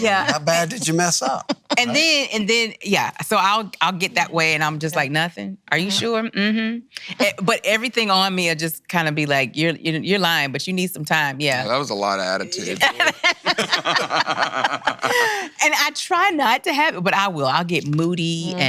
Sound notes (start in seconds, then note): 11.5 laughing